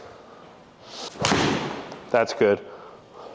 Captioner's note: golf club hits ball